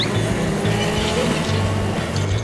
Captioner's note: carts zooming